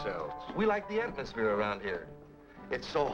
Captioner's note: pat